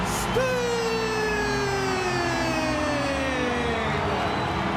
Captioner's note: crowd cheering